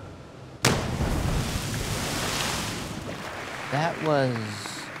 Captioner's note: splash